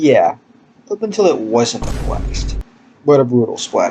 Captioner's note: boom